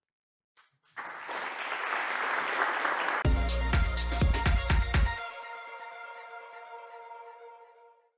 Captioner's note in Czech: Potlesk